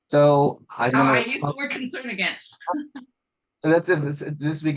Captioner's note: laughs